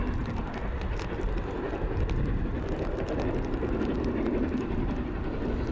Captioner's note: train passing